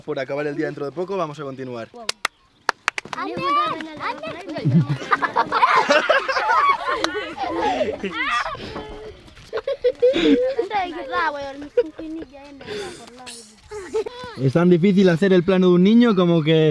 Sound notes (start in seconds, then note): 3.0 laughs